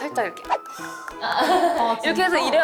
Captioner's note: chattering noises